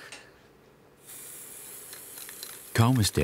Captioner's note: hissing, rattling